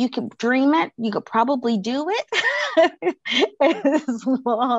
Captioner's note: chuckles